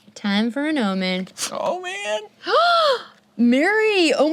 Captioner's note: gasps